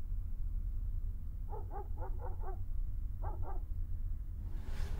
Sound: dog barks

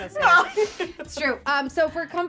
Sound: laughing

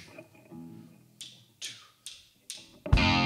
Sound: drumsticks clacking; guitar & drums playing

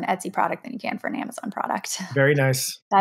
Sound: chuckles

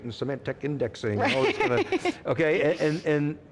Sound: laughs

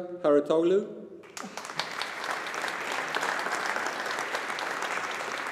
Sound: audience applauding

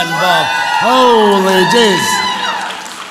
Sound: audience applauds

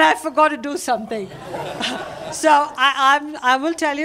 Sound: laughter

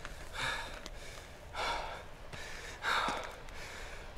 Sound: heavy breathing

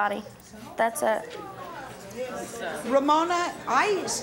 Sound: audience murmuring

